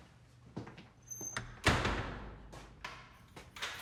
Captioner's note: door slams; lock clicks